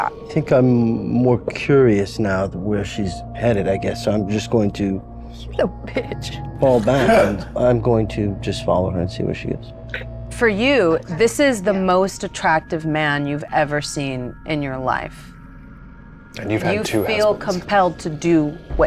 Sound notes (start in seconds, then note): 6.7 laughs